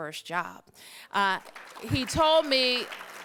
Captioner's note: applause